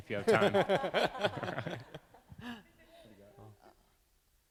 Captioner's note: laughing